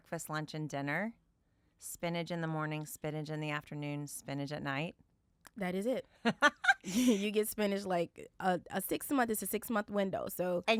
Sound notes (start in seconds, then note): 6.4 laughs